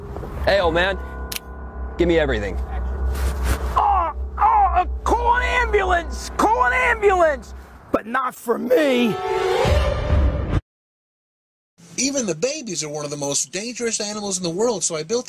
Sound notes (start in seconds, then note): 3.8 cries in pain